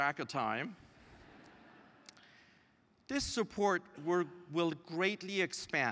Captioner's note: laugh